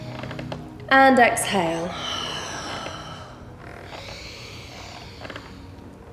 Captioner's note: heavy breathing